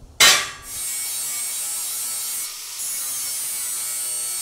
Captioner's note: saw grinding